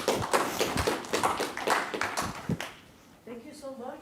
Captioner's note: applause